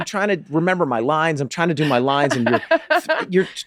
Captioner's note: laughing